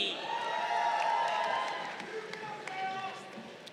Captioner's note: crowd cheering